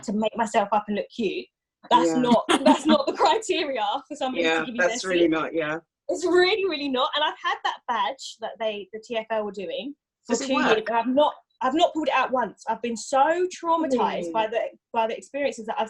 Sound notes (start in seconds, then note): 2.0 laughs